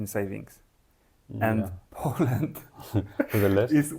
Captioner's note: laughs